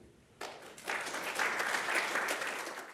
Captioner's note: applause